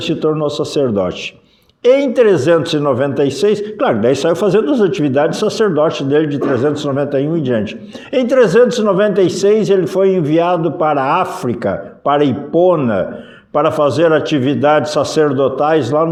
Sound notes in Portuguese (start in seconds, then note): 6.3 limpando a garganta